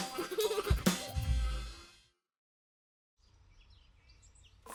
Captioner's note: children laughing